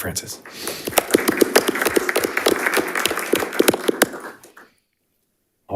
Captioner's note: audience applauding